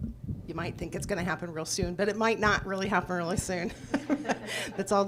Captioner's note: laughs